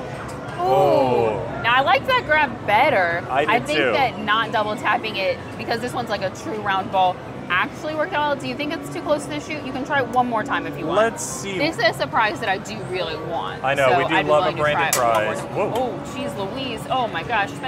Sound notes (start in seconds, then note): 15.0 claw clatters